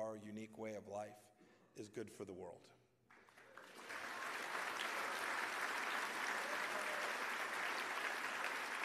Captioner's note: applause